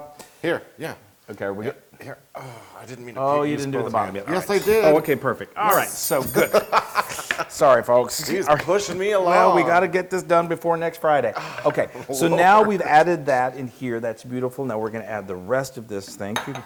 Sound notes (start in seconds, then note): 5.8 laugh; 11.4 laugh